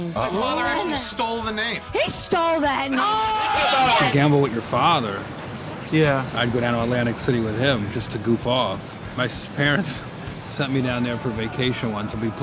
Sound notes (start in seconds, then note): 3.6 shouting